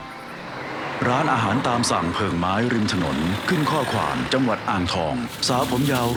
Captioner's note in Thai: เสียงรถ